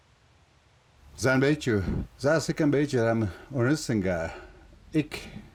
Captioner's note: speaking foreign language